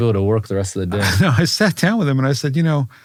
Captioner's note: laugh